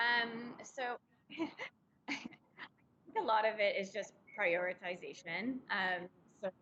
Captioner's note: chuckles